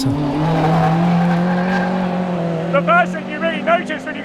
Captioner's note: car engine roaring